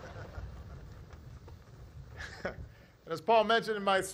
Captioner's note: laughter